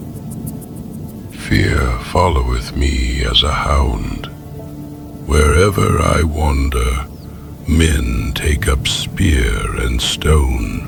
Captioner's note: groaning